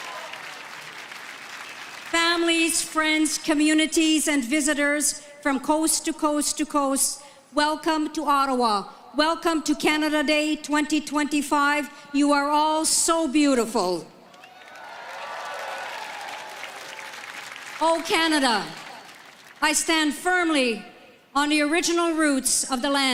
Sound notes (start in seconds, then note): 0.0 speaking French; 0.0 applause; 19.4 applause